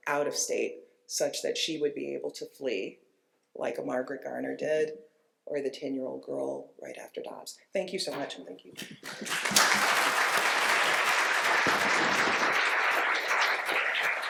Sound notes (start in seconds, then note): 8.8 applause